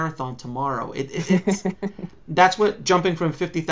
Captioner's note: laughs